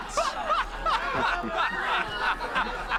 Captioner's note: laughing